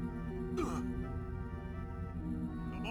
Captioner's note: grunt